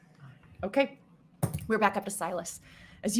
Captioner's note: dice thudding